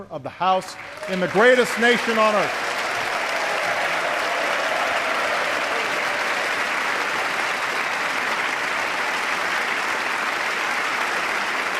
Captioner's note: applause